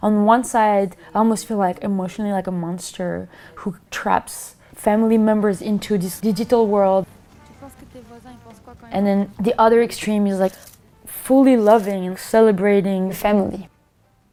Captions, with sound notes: On one side, I almost feel emotionally like a monster who traps family members into this digital world. And then the other extreme is like [CAMERA CLICKS] fully loving and celebrating family.